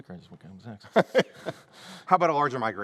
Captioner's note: laughter